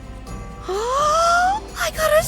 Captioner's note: gasps